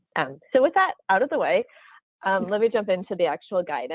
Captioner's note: laughs